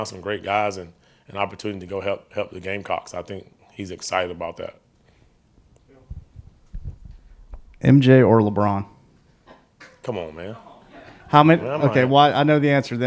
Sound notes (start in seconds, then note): 10.7 reporters chuckling